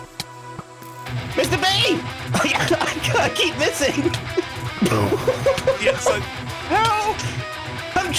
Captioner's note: hysterical laughter